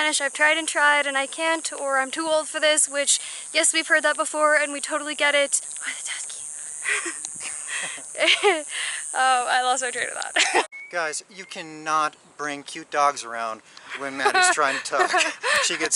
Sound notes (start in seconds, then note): 5.6 whispers; 7.4 laughs